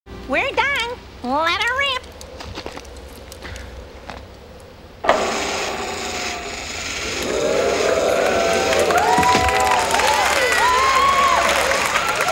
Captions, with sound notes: - We're done, let 'er rip! (electricity zapping) (audience cheering)